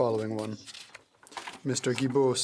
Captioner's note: speaking French